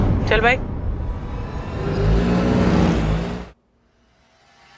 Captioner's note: engine revs